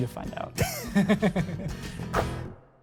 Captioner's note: both laugh